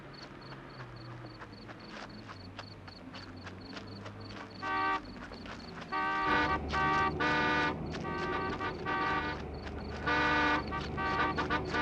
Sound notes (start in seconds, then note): 5.9 car horns honking